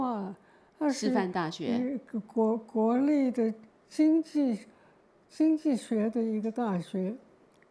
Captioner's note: Mandarin